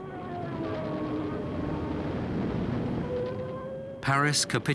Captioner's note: plane engines roaring